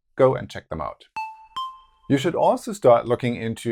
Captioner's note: notes sound